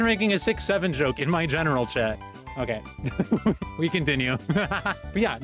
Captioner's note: EVILER laughing; giggling